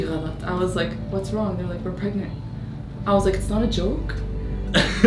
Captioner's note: speaks in English